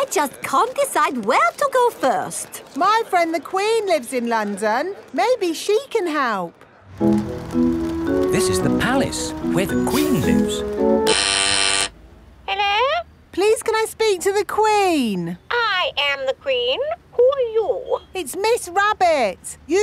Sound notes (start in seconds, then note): 11.2 doorbell ringing; 12.8 over intercom